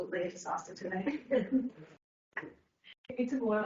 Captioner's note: others laugh